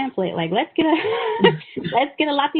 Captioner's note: laughing